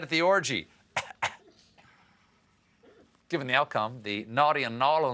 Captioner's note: coughing